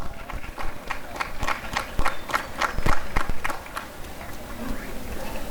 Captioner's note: applause